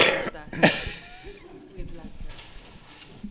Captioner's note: laughter